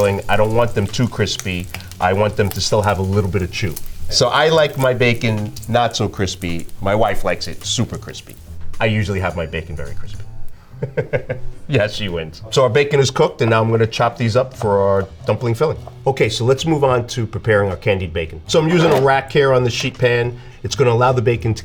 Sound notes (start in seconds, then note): 10.7 laughing